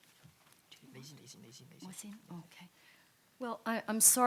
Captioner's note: panelists chattering